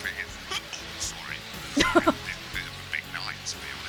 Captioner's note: chuckles